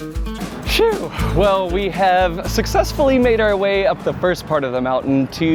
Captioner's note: exhales